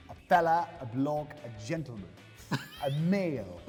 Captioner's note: laughing